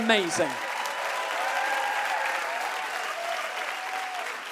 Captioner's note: the audience cheers and claps